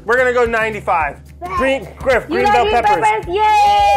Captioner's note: electronically distorted audio